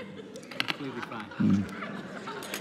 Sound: congregation laughing

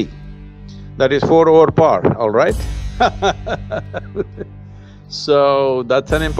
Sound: laughs

